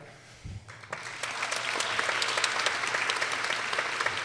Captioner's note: people applauding